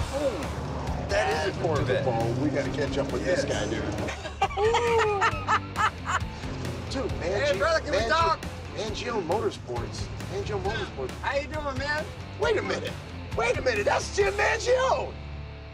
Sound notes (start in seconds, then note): 3.8 laughing in excitement